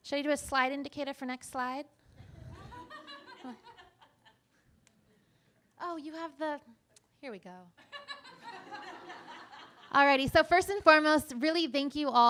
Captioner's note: laughter